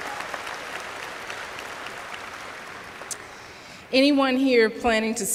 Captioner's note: applause